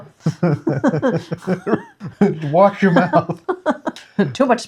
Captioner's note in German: Lacht